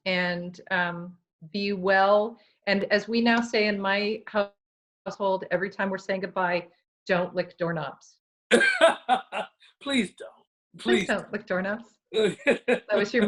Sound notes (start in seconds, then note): 8.5 laughs; 12.1 laughs